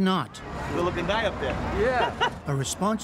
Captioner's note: laughter